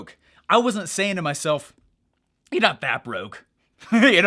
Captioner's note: laughs